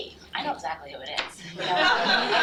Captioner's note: laughter